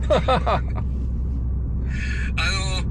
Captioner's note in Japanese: 笑い